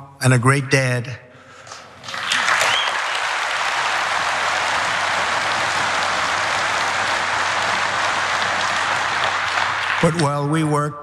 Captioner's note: applause